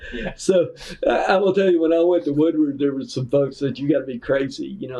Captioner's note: laughter